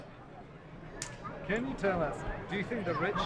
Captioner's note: voiceover